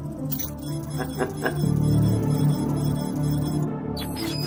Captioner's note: Stealth laughs